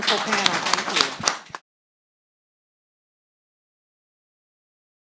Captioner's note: audience applauds